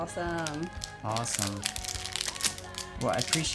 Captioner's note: plastic crumpling